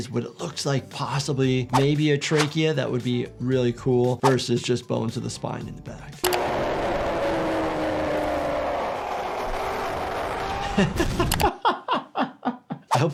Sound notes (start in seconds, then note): 6.4 soldier screams; 10.4 doctor laughs